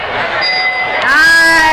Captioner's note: dinging